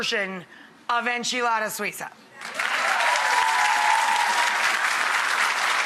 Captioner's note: audience applauds